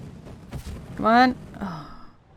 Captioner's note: sighs